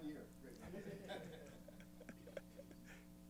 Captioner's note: laughter